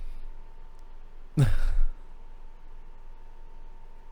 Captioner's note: bewildered chuckle